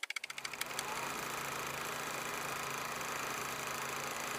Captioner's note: typewriter keys tapping; projector whirring